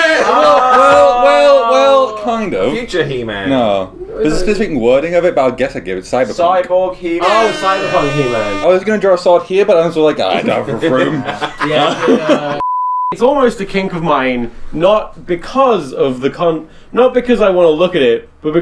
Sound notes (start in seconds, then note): 10.2 laughing